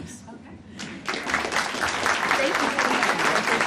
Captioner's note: audience applauding